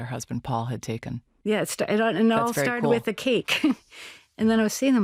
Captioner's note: laughs